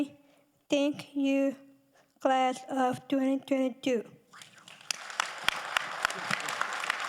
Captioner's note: audience applauding